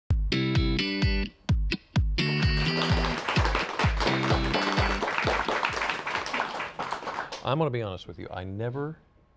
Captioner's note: applause